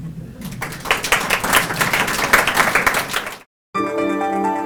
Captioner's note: audience applauding; bright music